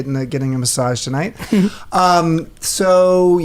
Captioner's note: chuckles